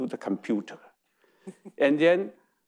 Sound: chuckles

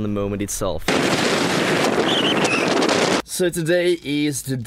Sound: loud wind

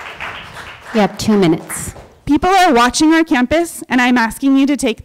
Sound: applause

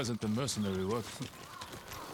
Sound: laugh

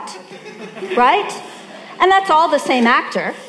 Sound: audience laughing

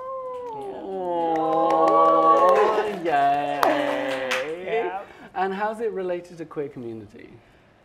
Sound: applause

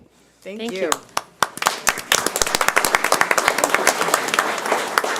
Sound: audience applauds

